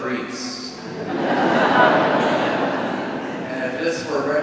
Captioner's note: congregation laughing